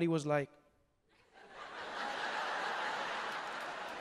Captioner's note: crowd laughing